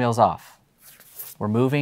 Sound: paper swishes

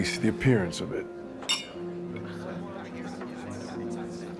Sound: clinking

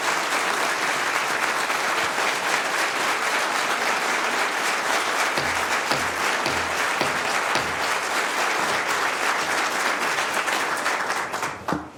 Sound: applause

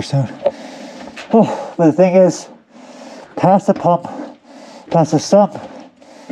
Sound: sighs

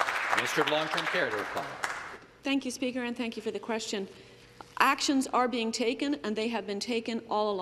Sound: some Applause

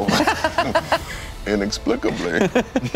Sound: laughing

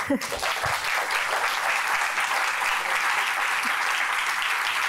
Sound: audience applauding

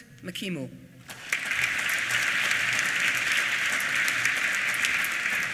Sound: applause

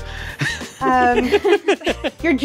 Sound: group laughs

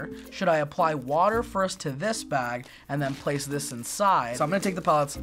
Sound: none

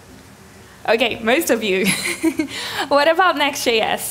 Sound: chuckles

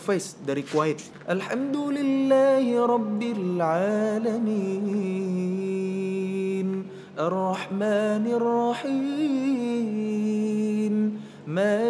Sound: recites quran

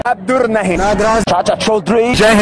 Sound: non-english speech

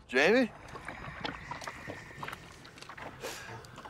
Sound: ghostly whispers

